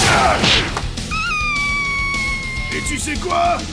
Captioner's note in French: cri effrayé